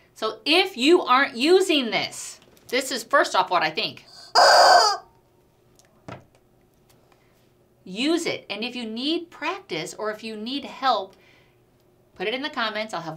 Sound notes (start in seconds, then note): 4.1 rubber chicken screaming